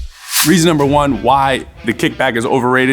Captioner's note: slide whooshing